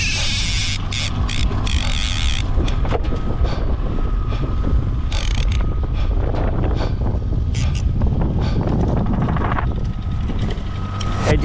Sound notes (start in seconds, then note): 0.6 rhythmic breathing; 7.9 wind rustling